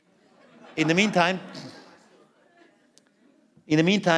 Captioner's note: laughter